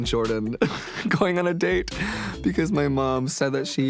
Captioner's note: laughs